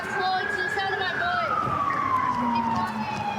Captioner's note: sirens